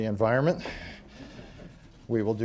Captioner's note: laughter